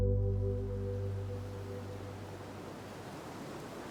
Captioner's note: water gushing